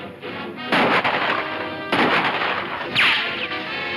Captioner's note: guns banging